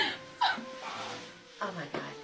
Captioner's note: girl moans